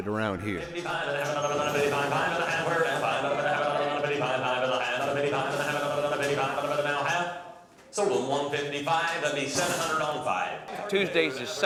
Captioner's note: auction Chant